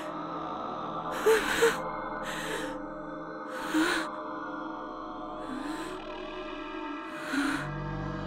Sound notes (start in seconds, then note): 2.2 inhales